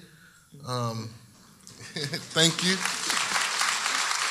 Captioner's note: audience applauding